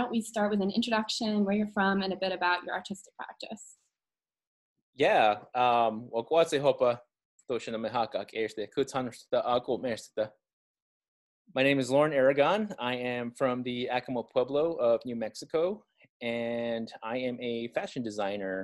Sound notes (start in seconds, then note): 6.4 speaking in Keres